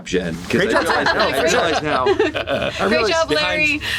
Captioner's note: laughter